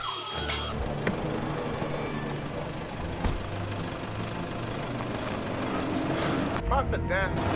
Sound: alarm beeps; panicked shouting

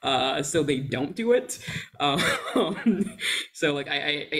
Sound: chuckles

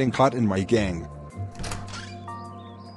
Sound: door Opens

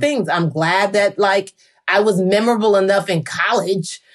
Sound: none

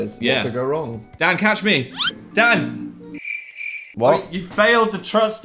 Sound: crickets chirping

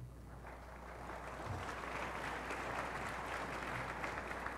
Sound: applause

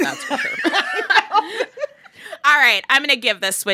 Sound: laughter

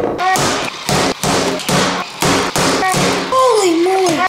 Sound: axe bangs

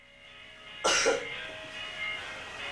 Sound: coughs

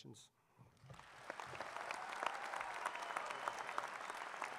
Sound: applause

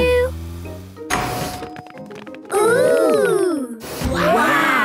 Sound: door dings open

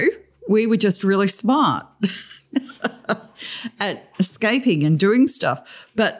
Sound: laughter

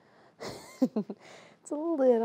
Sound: Claire chuckling

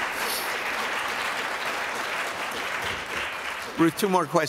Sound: applause

